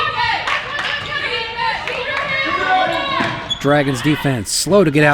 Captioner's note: Howard bench chanting “defense”